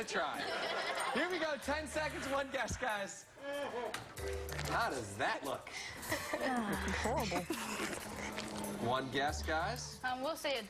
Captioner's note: laughter